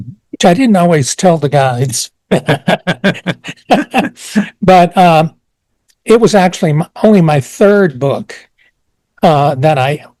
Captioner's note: both laugh